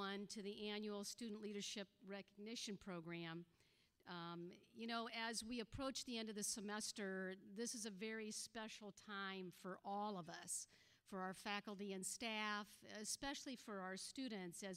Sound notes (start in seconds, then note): none